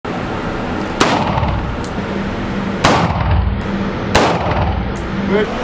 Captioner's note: gunfire